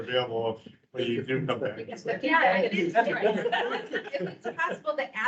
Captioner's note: members chattering